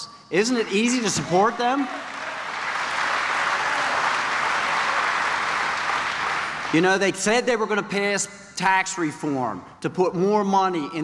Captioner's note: applause